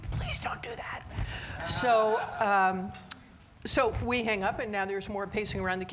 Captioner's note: audience laughing